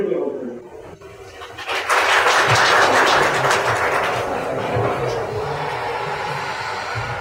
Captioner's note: applause